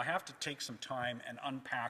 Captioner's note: none